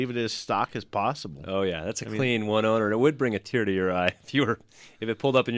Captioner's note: laughs